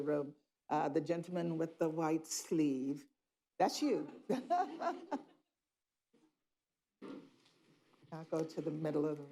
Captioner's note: laughter